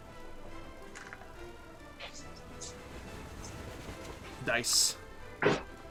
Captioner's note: rolling dice